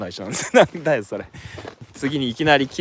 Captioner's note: laughs